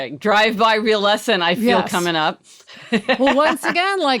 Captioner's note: laughing loudly